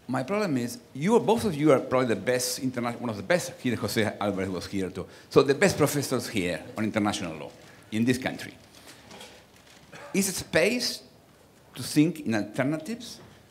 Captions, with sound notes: My problem is, both of you are probably the best, one of the best (speaking foreign language) the best professors here on international law in this country. Is it space to think in alternatives,